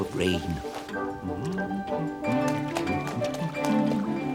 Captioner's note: humming happily